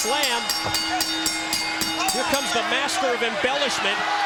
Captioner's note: bell ringing